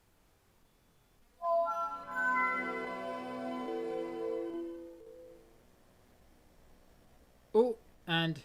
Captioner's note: windows startup sound